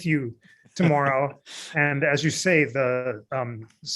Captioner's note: laughter